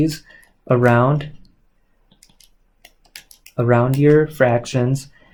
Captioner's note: keyboard clicks